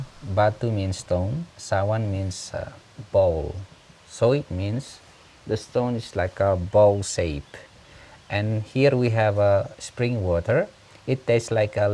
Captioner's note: waterfall Sounds